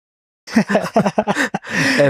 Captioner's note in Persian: خنده